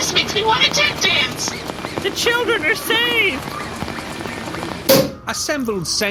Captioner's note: scampering around; transition: sound of bottle popping, restaurant ambience